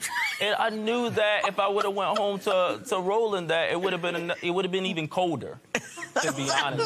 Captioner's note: laughter